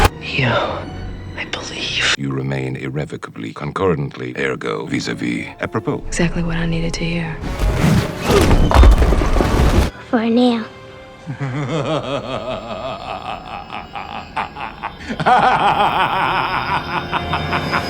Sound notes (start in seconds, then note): 7.5 actual bowling sound effect; 15.1 Agent Smith laughs at this terrible ending